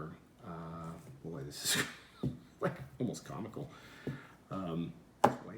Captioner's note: laughing